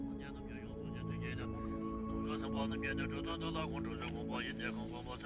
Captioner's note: chanting in a foreign language